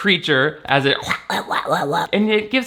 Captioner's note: makes quacking sounds